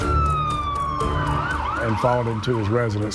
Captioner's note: sirens